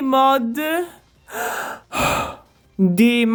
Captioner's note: sigh